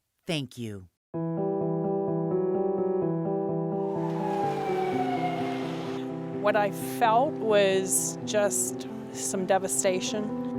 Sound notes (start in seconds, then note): 2.0 soft music; 3.8 sirens blaring